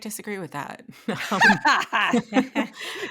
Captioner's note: laughing